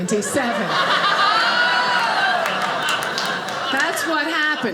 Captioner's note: audience laughing